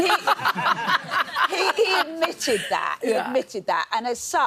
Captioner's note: laughs